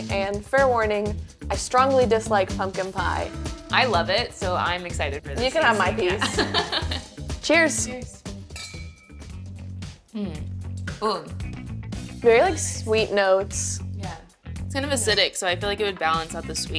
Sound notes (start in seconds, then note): 6.0 chuckles; 8.5 glasses clink; 10.1 vocalizes